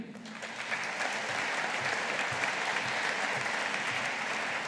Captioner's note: audience applauding